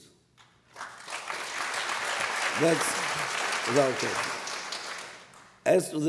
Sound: applause

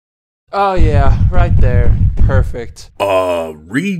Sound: large footsteps

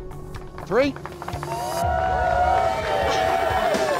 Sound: crowd cheers

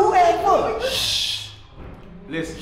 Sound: shushing

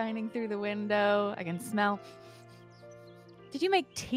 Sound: sniffing

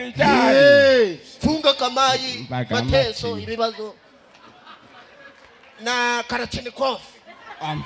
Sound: speaking military terms

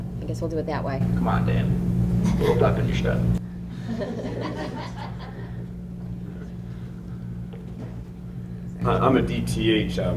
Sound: laughter

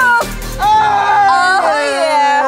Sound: yelling in celebration

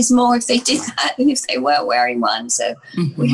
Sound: chuckles

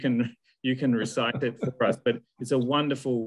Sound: laughs

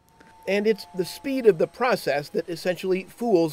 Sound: voiceover

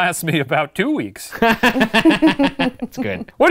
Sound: laughs

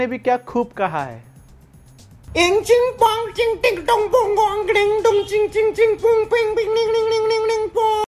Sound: gibberish fake Chinese sounds

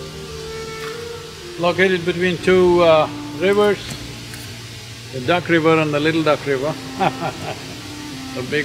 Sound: laughs

